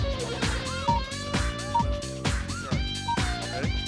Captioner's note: beep, beep